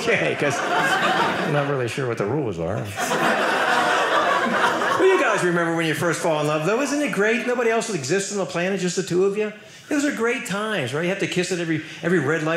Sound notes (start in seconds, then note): 2.9 audience laughing